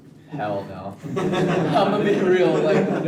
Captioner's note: everyone laughs